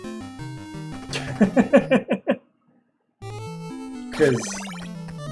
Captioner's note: laughs